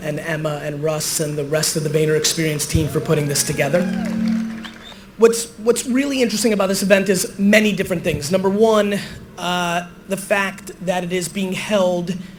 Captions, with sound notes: and Emma and Russ and the rest of the VaynerExperience team for putting this together. (applause, cheering) What's really interesting about this event is many different things. Number one, the fact that it is being held